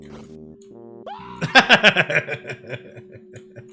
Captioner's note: laughs